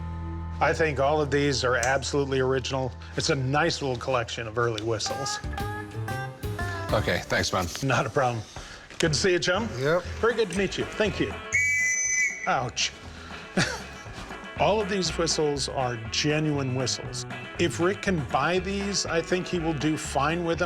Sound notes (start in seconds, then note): 11.5 shrill whistle blows